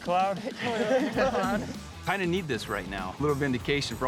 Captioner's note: everyone chuckles